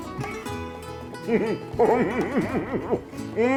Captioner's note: laughs